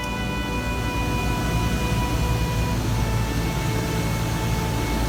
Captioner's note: air rushing